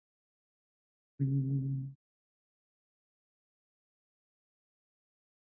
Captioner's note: hums